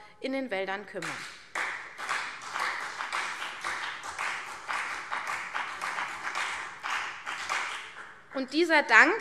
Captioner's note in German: Beifall CDU und BÜNDNIS 90/DIE GRÜNEN